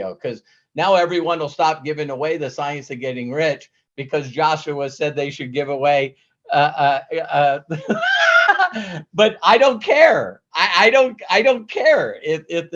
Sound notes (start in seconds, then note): 7.7 laughs